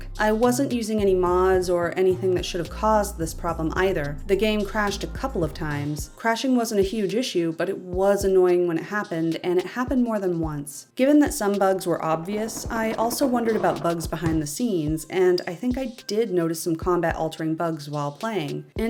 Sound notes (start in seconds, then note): 12.1 stress creak; 14.9 thud